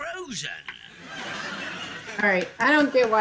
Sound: audience laughing

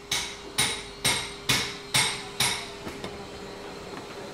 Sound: hammering, circular saw buzzing

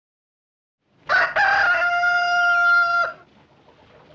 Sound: crowing

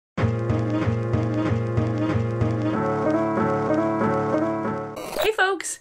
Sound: calm jazzy music; static crackles; static squeals

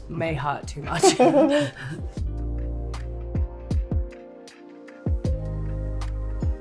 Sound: gentle music; laughing

